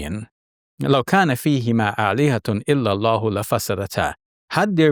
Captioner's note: speaking Arabic